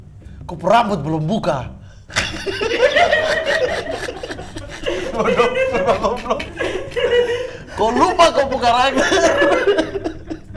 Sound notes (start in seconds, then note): 2.1 laughing; 6.8 laughing continues